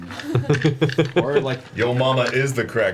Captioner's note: laughs